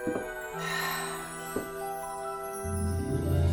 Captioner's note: sighs with delight